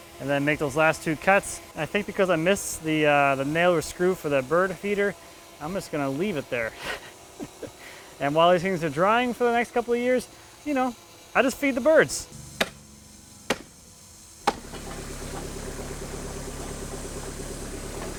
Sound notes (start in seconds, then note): 6.7 laughs; 13.4 hammer banging; 15.0 machine whirring